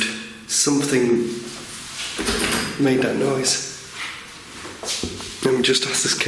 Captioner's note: door handle rattling